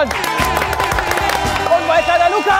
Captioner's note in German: Jubel, Applaus